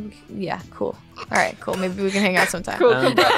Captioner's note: laughing